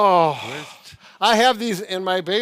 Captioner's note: groans